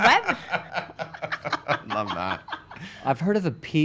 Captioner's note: laughs